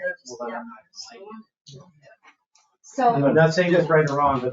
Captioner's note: people chattering